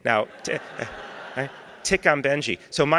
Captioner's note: laughter